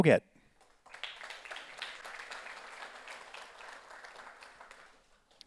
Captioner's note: audience applauds